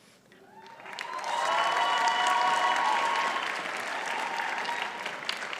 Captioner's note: audience cheers and applauds